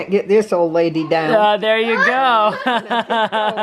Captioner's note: laughing